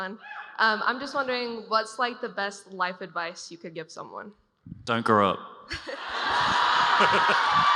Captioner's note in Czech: Potlesk